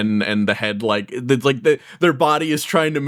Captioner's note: stutters